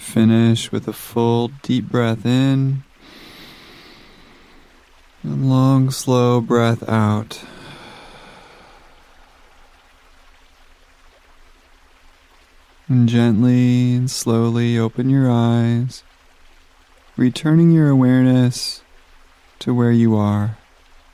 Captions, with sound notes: Finish with a full, deep breath in, (inhales deeply) long, slow breath out, (exhales slowly) and gently and slowly open your eyes, returning your awareness to where you are.